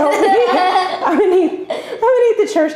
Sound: laughter

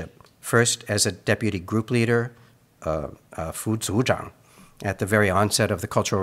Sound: speaks in Mandarin

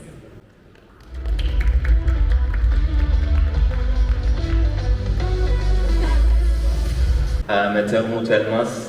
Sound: applause

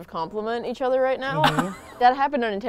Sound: laughs

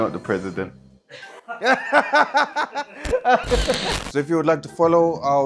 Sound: laughing

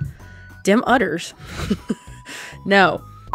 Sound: laughs

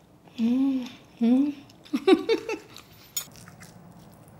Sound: laughs

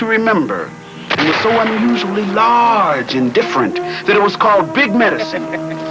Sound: gun firing; York laughing

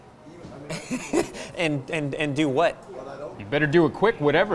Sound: laughs

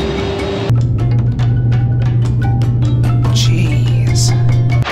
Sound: plane engine roaring; plane engine humming

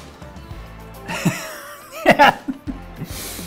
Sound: laughs

